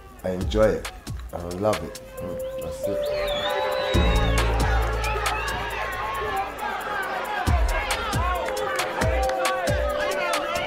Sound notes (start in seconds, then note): 2.9 crowd shouting; 4.0 drum and bass instrumental